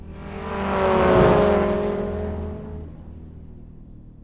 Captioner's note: car engine rumbling